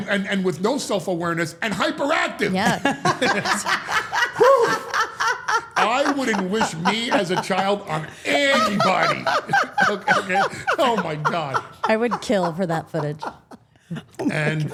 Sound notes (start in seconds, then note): 3.8 Steph laughing; 9.3 chuckles